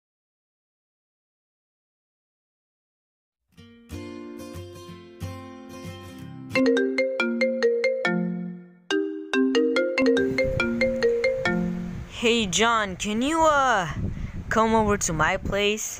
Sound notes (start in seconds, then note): 3.7 guitar playing; 6.2 phone ringing